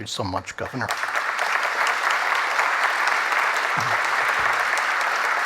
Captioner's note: applause